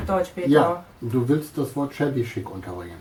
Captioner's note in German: Aus dem Off